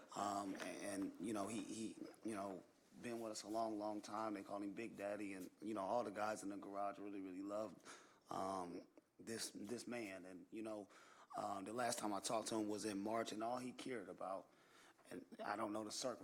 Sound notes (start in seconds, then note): none